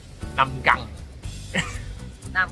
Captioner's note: chuckle